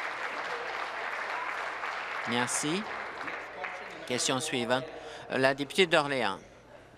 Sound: applause

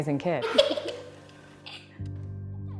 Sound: laugh

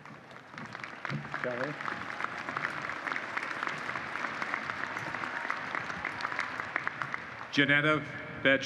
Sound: applause

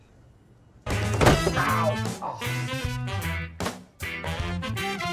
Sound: sighing; lively music

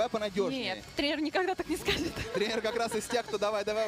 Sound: laughs

